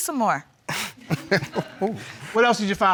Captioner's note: laughing